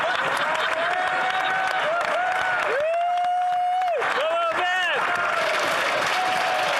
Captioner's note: laughter; cheering and Applause